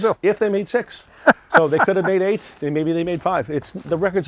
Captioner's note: laughing